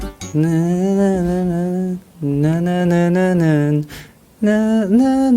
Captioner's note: hums